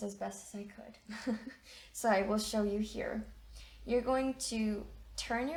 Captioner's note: chuckles